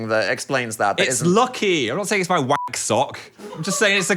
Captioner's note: beep